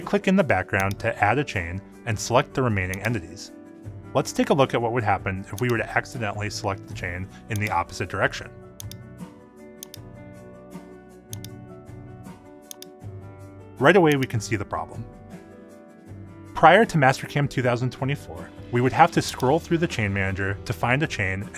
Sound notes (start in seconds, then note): 9.1 lively music; 9.1 mouse clicking